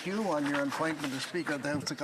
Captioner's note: speaking french